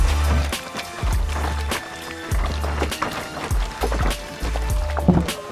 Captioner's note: gasoline sploshing; intense rap music